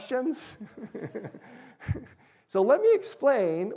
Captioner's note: chuckling